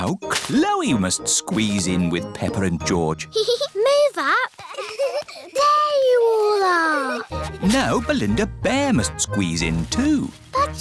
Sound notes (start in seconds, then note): 4.5 peppa giggles